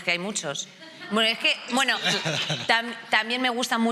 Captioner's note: laughing